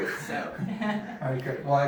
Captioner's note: laughing